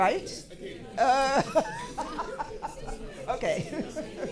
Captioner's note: laughing